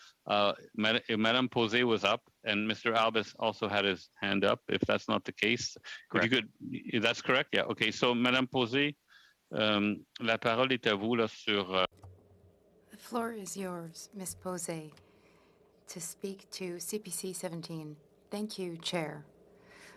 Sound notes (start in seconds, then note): 14.6 speaking FRENCH